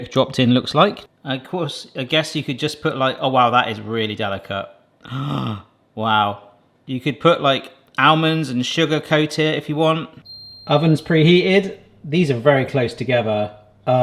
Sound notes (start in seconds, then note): 11.6 buzz sound